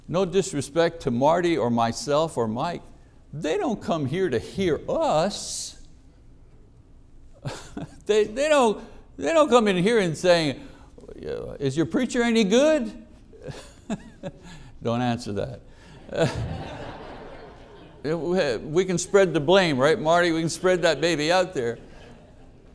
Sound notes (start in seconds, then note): 15.9 congregation laughs